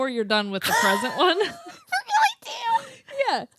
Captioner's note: laughs